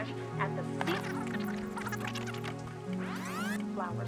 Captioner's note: tape humming